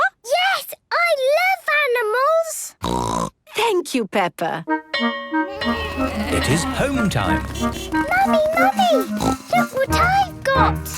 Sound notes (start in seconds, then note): 2.8 snorting; 5.0 bell clanging; 5.5 honking